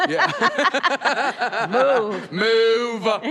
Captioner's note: laughs